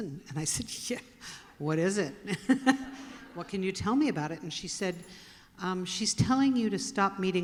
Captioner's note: laughter